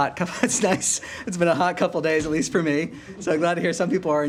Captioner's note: laughter